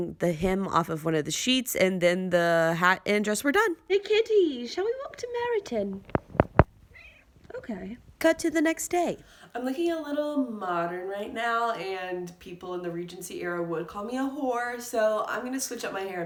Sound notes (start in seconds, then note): 3.2 bad British accent; 6.9 meow